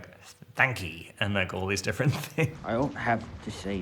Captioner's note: Robert chuckles